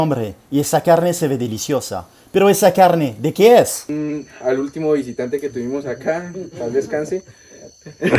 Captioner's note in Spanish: risa